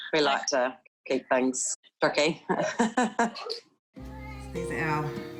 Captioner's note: chuckles